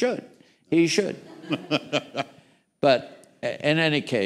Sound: laughter

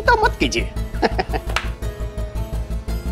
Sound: laughs

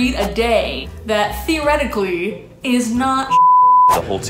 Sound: beep

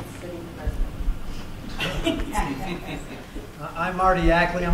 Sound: laughter

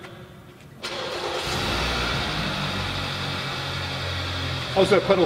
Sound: car Starting

